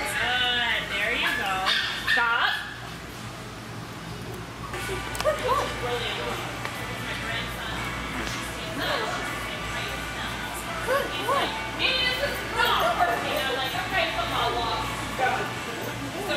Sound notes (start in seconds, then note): 12.3 woman shouting